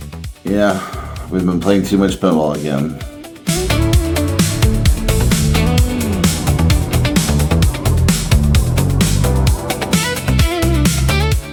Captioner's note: mooshy mouth